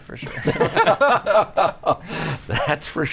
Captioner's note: laughing